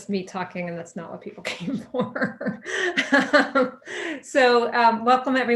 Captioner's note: laughing